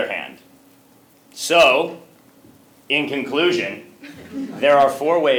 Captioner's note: laugh